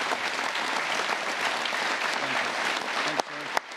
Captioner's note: applause